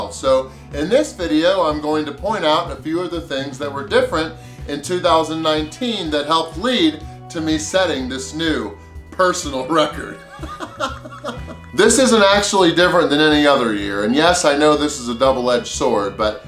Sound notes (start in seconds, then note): 10.3 laughing